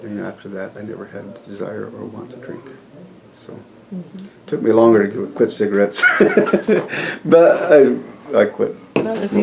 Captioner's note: laughs